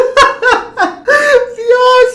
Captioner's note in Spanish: risas; suspiro